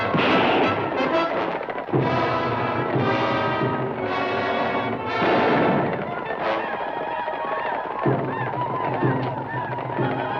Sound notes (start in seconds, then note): 0.0 gun fires; 5.2 gun fires; 5.8 native Americans howl